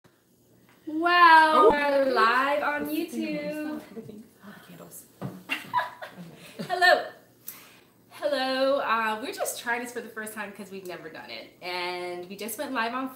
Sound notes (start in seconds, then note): 5.5 laughing